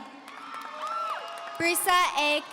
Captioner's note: audience cheering